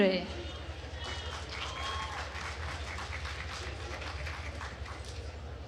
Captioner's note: attendees applauding